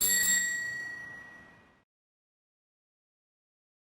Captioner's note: bell dings